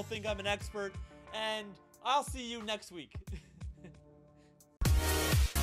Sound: laughs; upbeat music

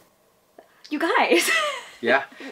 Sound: laughs

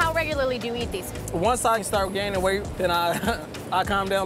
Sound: chuckles

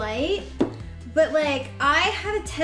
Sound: taps table

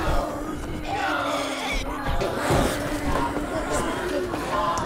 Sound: zombies growling

